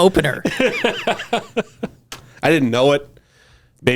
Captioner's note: laughing